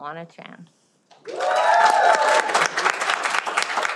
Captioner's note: cheering